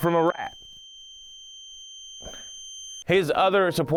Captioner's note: high pitched whistle